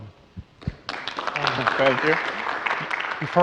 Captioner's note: audience applauds